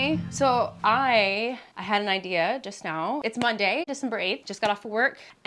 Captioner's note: none